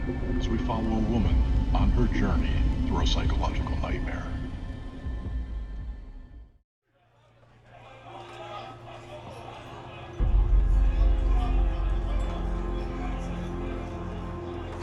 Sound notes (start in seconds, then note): 9.2 sound of bar patrons talking